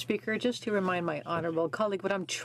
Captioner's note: speaking French